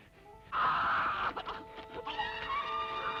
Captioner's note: screaming